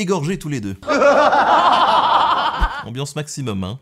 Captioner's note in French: rires